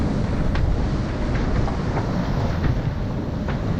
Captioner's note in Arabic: تحطم المياه